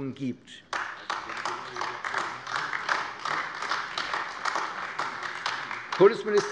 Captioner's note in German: Beifall AfD